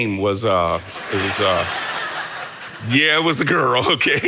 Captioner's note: congregation laughing